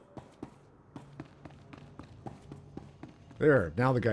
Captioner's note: footsteps